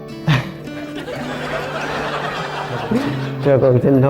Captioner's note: laughter